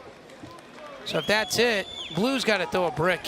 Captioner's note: crowd cheering